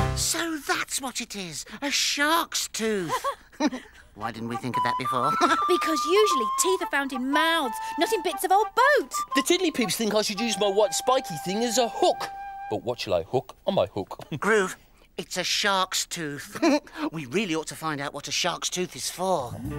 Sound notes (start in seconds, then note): 3.0 Tula and Iver laugh